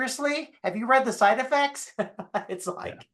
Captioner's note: chuckling